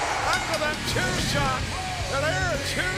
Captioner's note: bell ringing